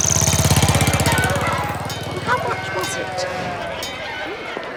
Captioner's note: motor engine puttering; city commotion